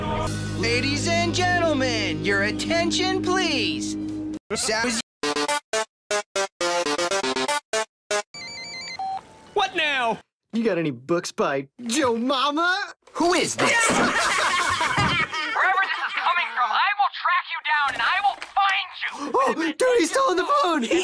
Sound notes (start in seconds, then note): 8.3 telephone rings; 13.5 Mordecai and Rigby laughing their asses off